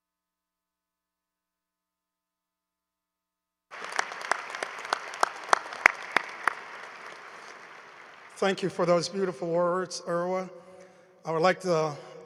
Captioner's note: applause